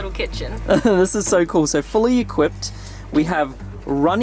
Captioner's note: laughs